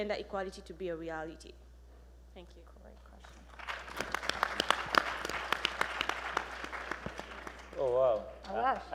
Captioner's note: applause